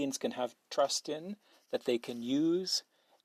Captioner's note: speaking French